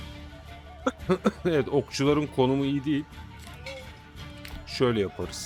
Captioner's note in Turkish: kahkaha